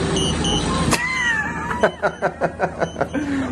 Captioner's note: everyone laughing